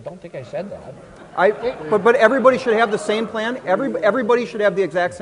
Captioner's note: audience laughs